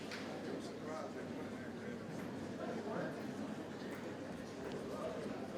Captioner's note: attendees chatter indistinctly